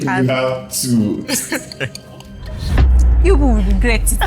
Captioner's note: laughs